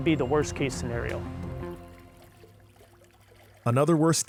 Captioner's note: water swooshing